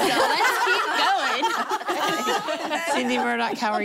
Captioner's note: laughter